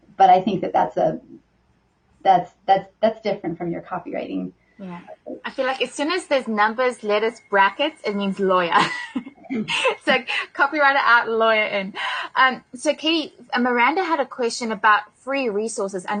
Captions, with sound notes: But I think that's different from your copywriting. - Yeah, I feel like as soon as there's numbers, letters, brackets, it means lawyer (laughs). So copywriter out and lawyer in. So, Kate, Miranda had a question about free resources.